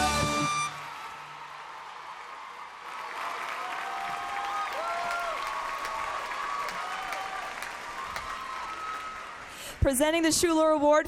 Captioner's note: cheers and applause